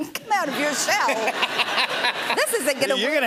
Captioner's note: laughter